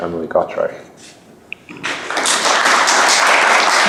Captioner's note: applause